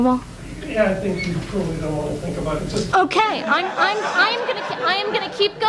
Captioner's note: audience laughs